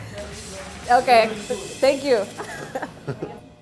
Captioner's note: laughs